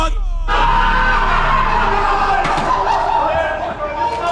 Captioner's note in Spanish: el equipo grita